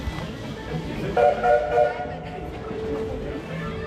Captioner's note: train whistle